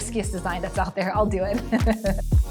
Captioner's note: laughs